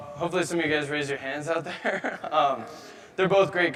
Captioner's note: laughing